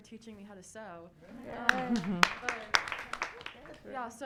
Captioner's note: audience cheering and applauding